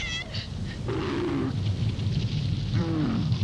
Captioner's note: yells; camel groans